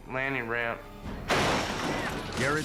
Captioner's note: bike crashing